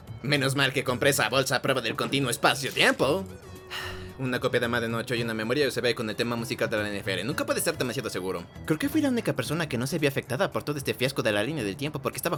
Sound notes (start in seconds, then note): 3.6 sigh